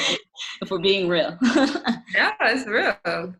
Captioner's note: women laugh